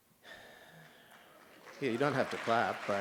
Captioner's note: applause